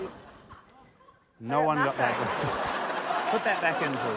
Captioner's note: laughter